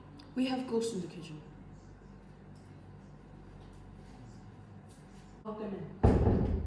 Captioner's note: silence